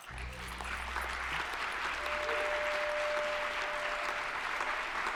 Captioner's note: audience applauding